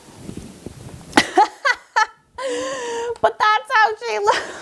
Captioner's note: laughs